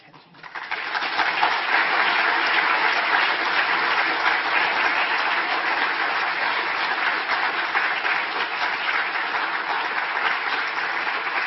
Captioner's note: applause